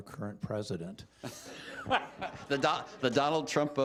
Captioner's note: laughter